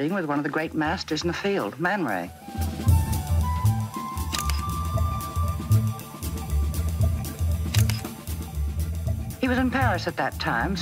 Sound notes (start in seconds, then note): 2.7 upbeat jazz music continues; 4.2 camera clicks